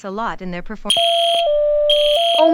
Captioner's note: fire Alarm